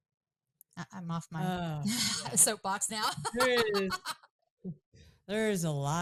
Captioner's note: laughs